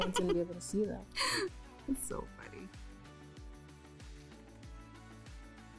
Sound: laughing

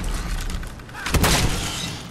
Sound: blam!

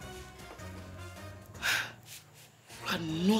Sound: sigh

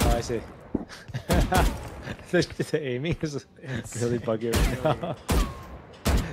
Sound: laughter

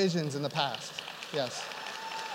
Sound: applause

